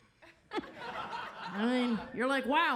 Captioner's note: audience laughs